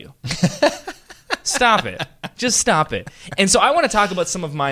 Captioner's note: laughter